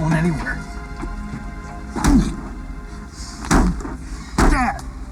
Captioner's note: grunting